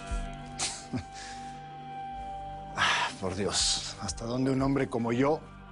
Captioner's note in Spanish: Ríe